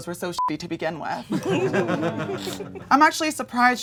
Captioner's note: audience laughing